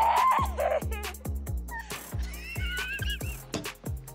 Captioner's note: laughing